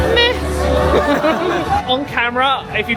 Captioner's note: travellers laughing